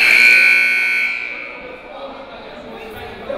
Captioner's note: buzzer